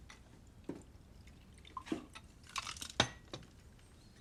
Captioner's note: liquid pours